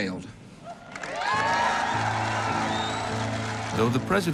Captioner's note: crowd cheering and applauding